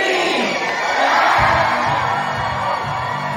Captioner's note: shouts of celebration